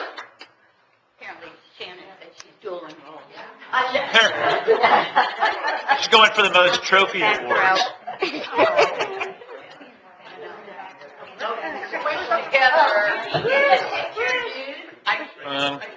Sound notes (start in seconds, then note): 4.2 laughing